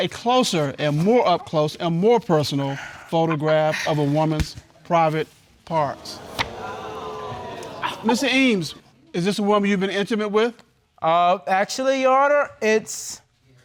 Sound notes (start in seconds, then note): 5.9 audience exclaims